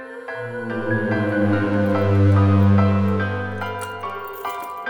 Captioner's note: chains jangling